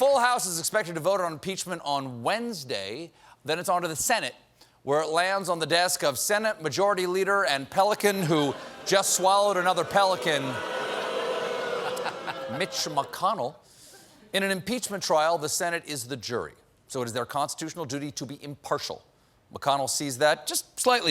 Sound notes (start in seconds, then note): 13.5 booing